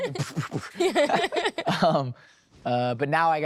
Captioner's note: chuckling